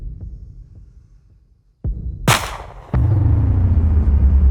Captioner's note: gunshot fires